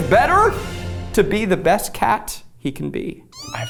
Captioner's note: cat meows